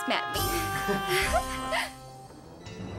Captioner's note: both chuckling